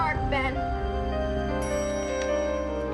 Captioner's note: elevator bell dings